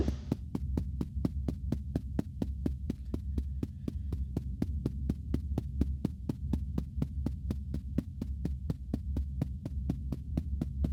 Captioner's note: tapping